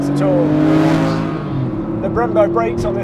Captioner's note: car engine revving